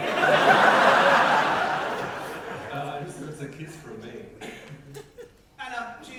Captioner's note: audience laughter